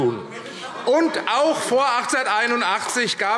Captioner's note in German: Beifall AfD - Zurufe DIE LINKE